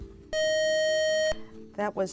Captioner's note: beeping